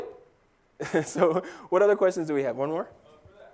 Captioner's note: laugh